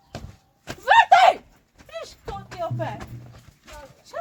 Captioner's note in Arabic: صراخ